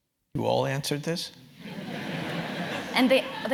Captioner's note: laugh